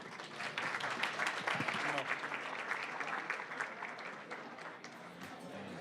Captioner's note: applause